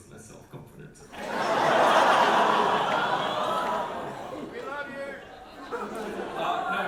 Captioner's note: big audience aww